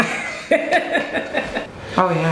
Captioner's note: both laughs